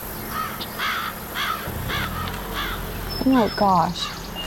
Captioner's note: birds cawing